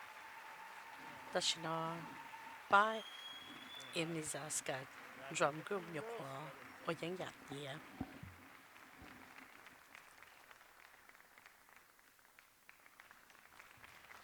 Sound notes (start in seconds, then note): 2.1 applause